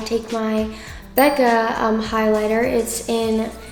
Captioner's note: bell chimes